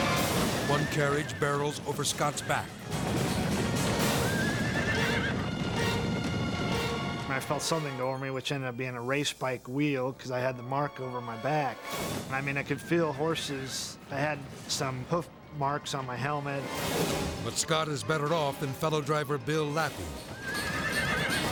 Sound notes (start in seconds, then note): 3.5 horses neighing; 3.7 dramatic music